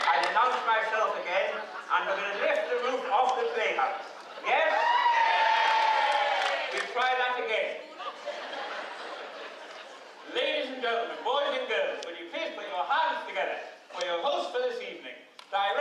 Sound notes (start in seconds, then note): 4.4 cheers; 7.8 laughter